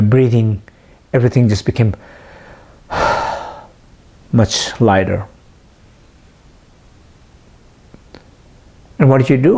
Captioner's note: sigh